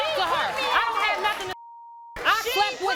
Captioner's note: beep